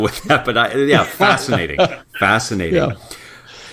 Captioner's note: laugh